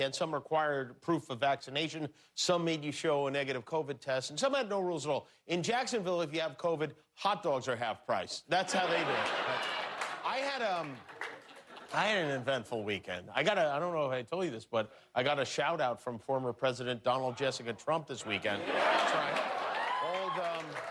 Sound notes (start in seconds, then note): 12.5 laughter